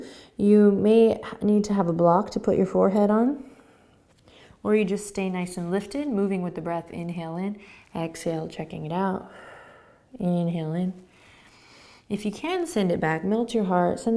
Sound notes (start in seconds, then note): 9.2 exhaling